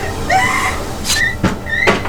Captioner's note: coughing; screaming; blade slicing